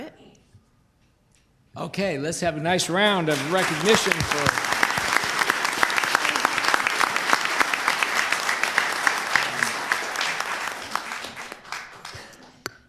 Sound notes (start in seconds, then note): 5.1 applause